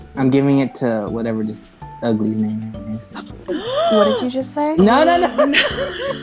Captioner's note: gasp